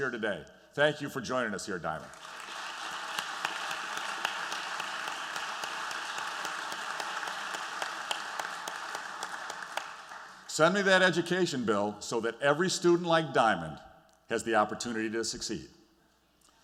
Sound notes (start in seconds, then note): 2.0 applause